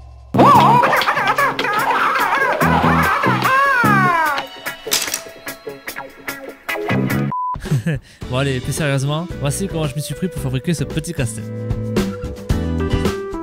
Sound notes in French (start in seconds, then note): 7.6 rires